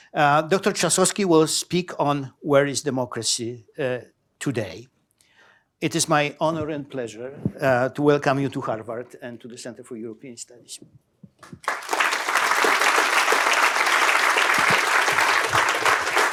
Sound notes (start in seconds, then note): 11.4 applause